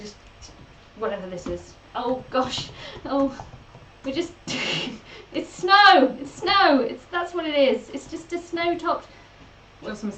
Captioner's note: laughs